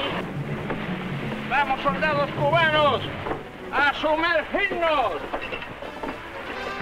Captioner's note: man speaking in Spanish